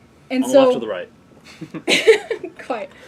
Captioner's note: laugh